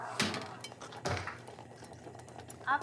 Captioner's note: Door closes